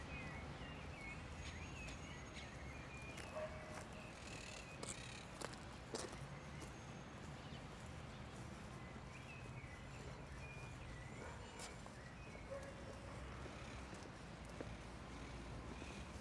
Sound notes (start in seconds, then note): 1.6 footsteps crunch; 10.5 dog barks